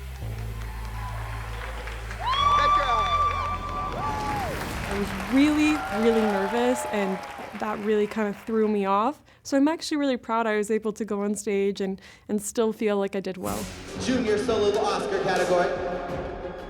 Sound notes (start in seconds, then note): 0.1 cheering, applause; 2.2 whooping